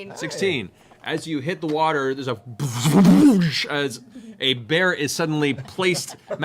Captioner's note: double splooshing sound